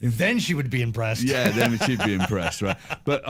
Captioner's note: laughing